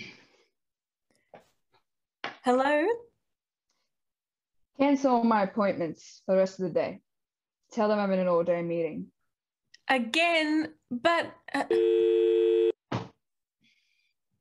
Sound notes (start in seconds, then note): 11.8 MORGAN hangs up, dial tone plays